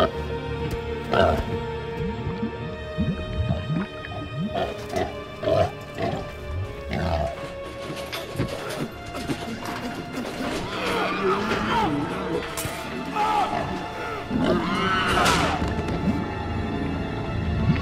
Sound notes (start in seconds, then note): 11.0 man screaming; 14.3 creature squealing